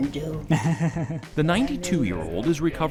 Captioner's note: both chatter